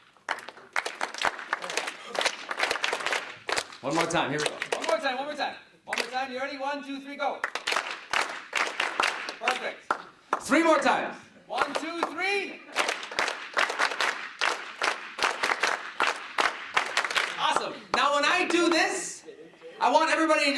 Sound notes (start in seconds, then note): 0.0 rhythmic clapping; 7.3 rhythmic clapping; 12.5 rhythmic clapping